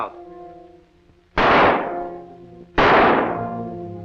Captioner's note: gunshots